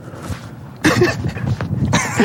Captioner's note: pat pat brush pat; laugh